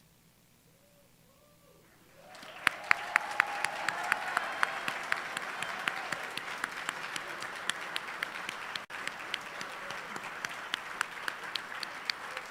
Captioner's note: applause